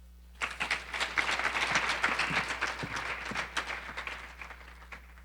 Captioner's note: audience applauding